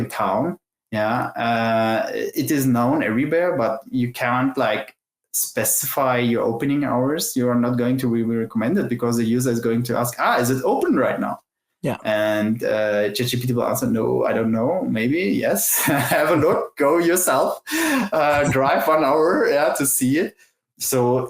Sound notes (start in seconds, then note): 15.6 laughs